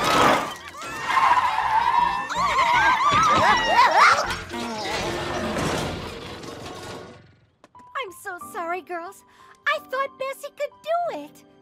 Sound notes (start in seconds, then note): 0.0 tires screeching; 2.3 all yelling; 4.1 clattering, clanging